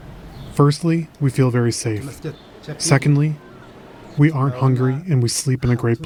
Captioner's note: through translator